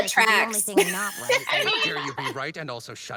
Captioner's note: laughter